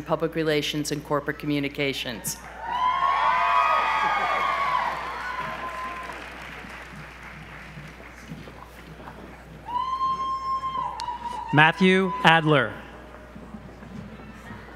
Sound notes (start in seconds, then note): 2.5 audience applause